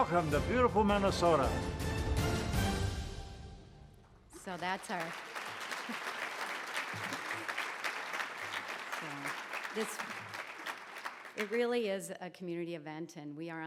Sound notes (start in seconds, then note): 4.3 crowd applauds